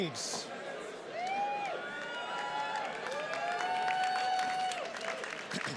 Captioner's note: attendees cheers and claps